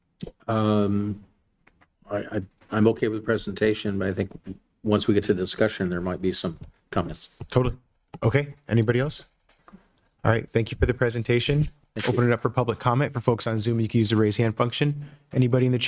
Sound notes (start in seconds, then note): none